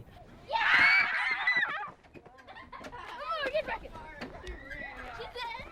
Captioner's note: children shouting and laughing